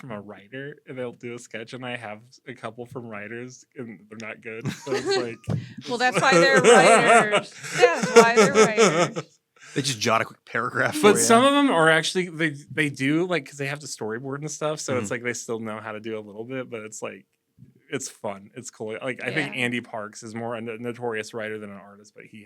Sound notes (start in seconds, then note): 8.7 laughs